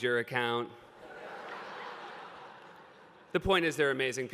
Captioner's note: laughter